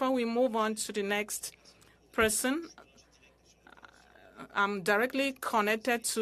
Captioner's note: speaking french